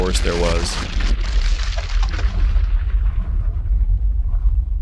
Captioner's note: exploding